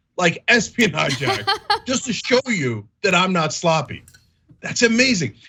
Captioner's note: laugh